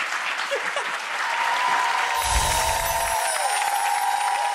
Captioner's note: laughs; audience cheers